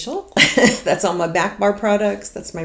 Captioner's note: laughs